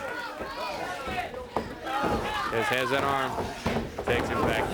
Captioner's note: crowd chatter